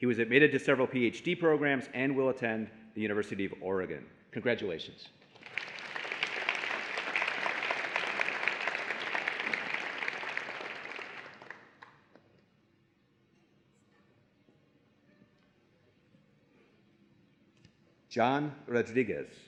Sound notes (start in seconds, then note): 10.9 applause and Cheering